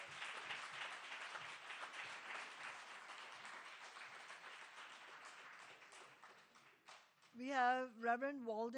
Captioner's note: applause